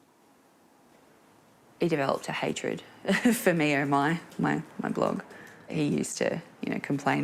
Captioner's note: chuckles